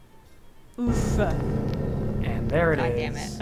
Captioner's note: dramatic sound effect